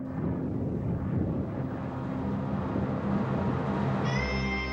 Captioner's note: thunder rolling; dramatic music